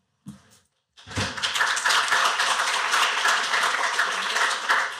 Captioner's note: applause